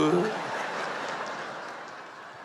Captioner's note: laughter